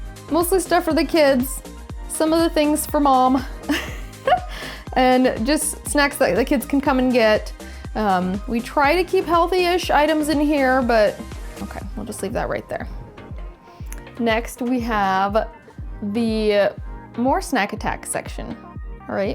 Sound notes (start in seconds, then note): 3.7 laughs